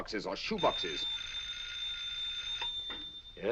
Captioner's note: telephone ringing